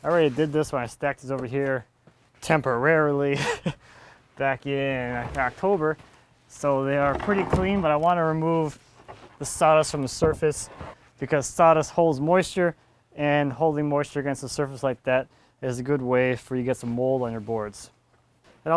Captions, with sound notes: I already did this when I stacked these over here temporarily (laughs) back in October, so they are pretty clean, but I want to remove the sawdust from the surface because sawdust holds moisture, and holding moisture against a surface like that is a good way for you to get some mold on your boards.